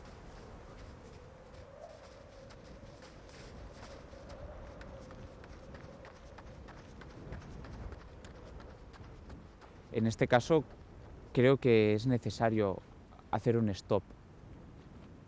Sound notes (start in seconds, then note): 2.9 wind whistling; 10.2 speaking in foreign language